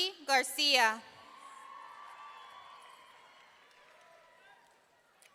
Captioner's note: audience cheering